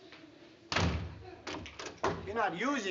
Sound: door slam

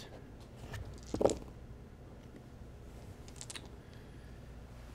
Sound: dice thud

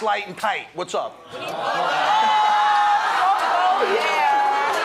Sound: audience oohing

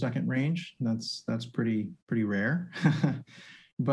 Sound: chuckles

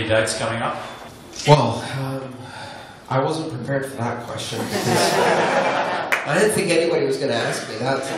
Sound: laughter

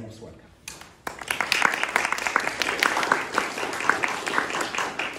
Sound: applause

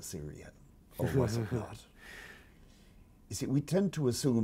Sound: laughing

